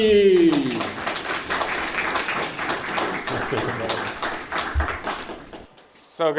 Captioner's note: applause